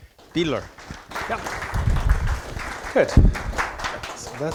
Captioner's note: applause